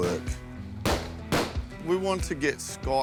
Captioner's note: gunshots